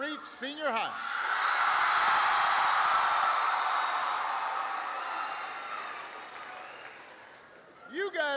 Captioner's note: applause